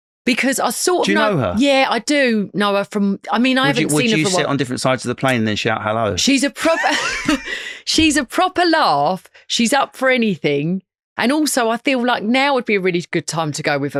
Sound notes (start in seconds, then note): 7.0 lauging